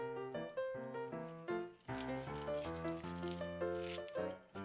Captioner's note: cheeks popping haha